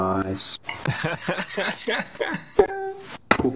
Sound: laugh

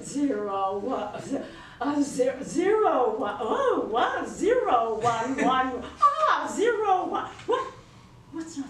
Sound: stammering

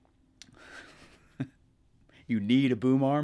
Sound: laughing

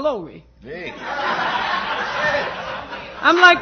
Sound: laughter

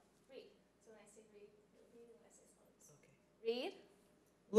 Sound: speaking faintly

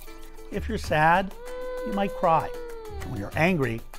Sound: child crying

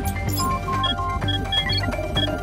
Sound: beeping

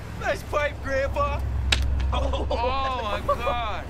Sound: all laughing

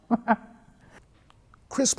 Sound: she chuckles

